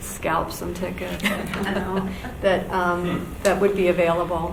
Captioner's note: laughing